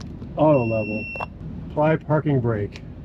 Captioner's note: system beeping